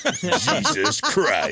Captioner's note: laughing